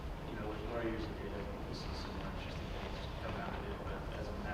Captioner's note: video static